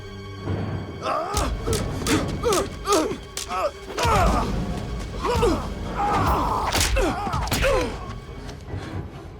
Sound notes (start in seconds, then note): 1.0 Dalton and Knox grunting; 1.3 sticks clacking